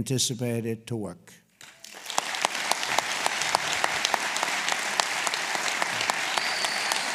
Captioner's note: applause